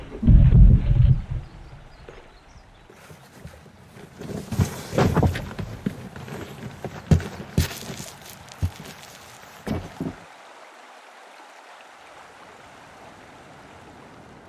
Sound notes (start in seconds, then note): 8.7 running water